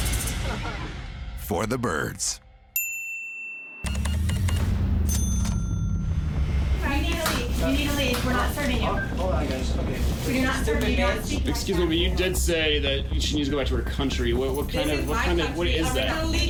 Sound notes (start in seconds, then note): 0.4 man chuckles; 3.8 cash register beeping, dings